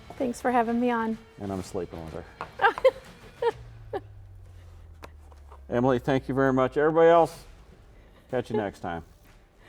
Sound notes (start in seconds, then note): 2.5 laughs